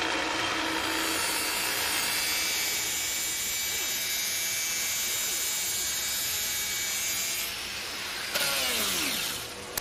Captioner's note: machinery whirring